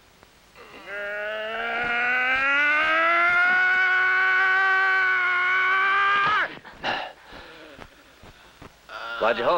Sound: groaning

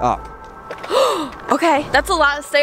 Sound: gasps

